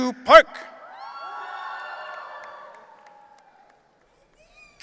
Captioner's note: audience cheering